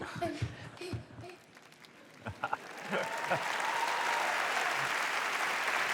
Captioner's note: applause